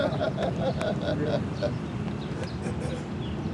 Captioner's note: laughs